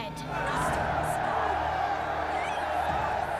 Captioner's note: shouting